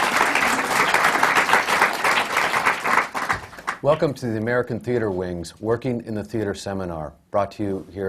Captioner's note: applause